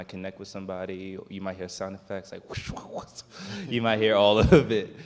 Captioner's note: swishing sounds